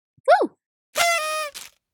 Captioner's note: party horn